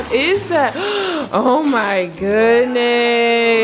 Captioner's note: gasps